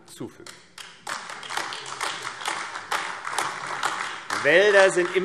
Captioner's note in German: Beifall AfD